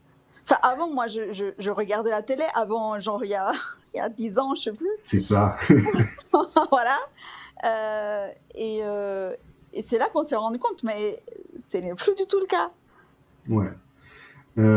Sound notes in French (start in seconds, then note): 5.5 rires